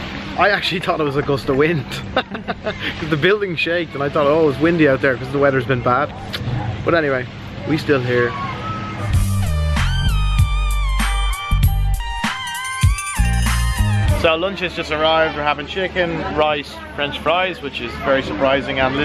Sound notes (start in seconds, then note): 1.8 chuckles; 6.0 clicks; 9.0 bright upbeat music